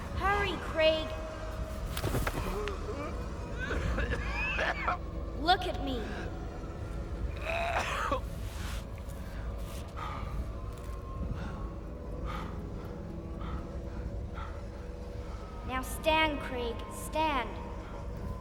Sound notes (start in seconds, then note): 2.4 moaning, Coughing; 7.4 gagging, Coughing